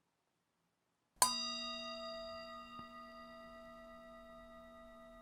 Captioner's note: conclusion Meditation Bell Sounds: 1 of 3